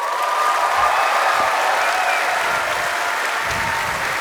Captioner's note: cheers and applause